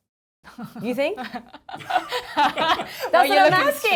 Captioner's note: both laughing